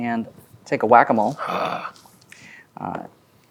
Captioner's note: growls as character